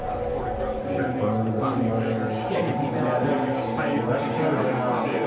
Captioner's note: people chattering